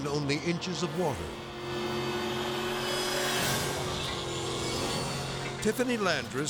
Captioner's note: boat buzzing; dramatic whoosh